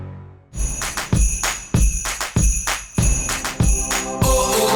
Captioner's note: jingle bells jingling